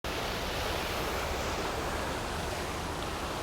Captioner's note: fountain flowing